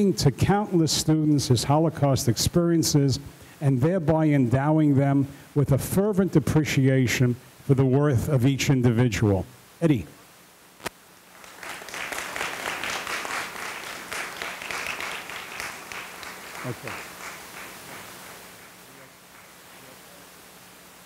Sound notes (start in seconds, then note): 11.3 audience applauding